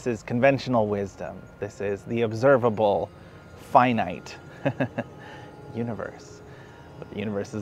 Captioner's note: laughs